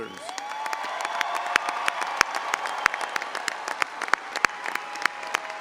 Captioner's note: audience applauding and cheering